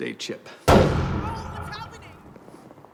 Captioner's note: explosion